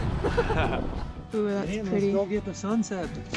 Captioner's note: laughing